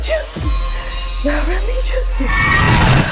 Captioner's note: Mandarin language; Mandarin language